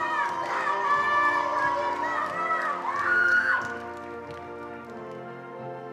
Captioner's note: attendees cheering and applauding